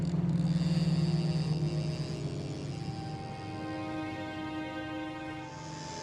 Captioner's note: fishing reel ticking